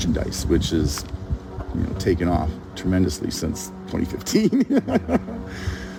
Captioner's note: laughs